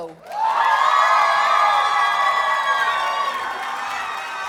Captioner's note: audience cheers and applauds